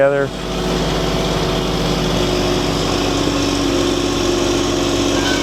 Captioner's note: crane engine